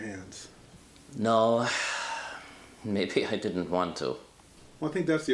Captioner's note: sighs